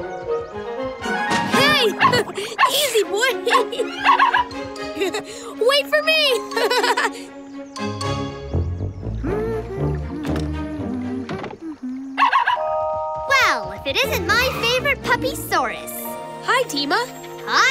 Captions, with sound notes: Hey, easy boy! Wait for me! [humming] [barking] Well, if it isn't my favorite puppysaurus. -Hi Deema. -Hi there!